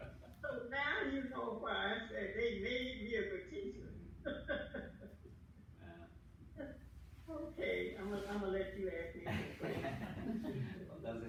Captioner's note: laughter